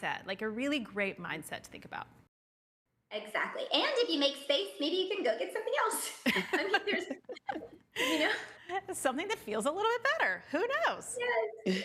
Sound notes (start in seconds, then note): 6.2 laughing